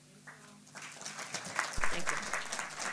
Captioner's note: applause